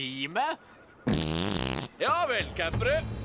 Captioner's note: farts